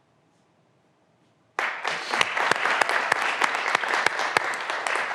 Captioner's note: graduands applauding